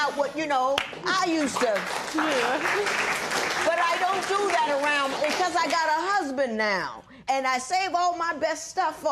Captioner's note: applause